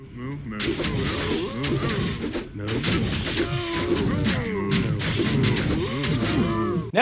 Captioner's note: Hell Bovines grunting; blade thwacking